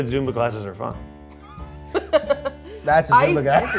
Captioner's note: laughs